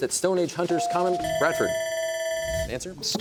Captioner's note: bell ringing